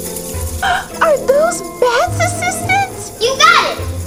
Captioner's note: wings fluttering; inhales